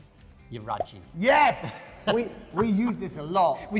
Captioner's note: laughing